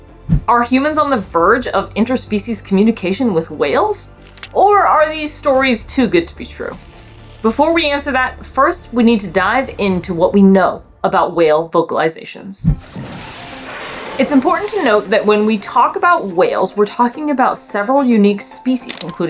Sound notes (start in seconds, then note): 6.8 background music; 12.6 water spurting sound